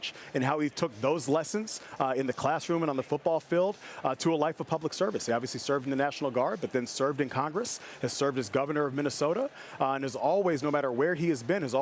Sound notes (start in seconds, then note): none